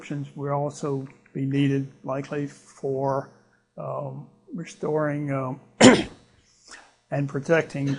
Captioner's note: clears throat